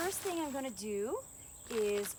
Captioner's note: Arabic